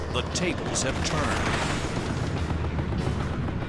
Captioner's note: gunshots